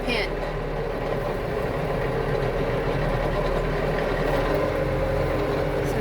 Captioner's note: tractor engine running